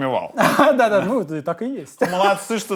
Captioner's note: laughs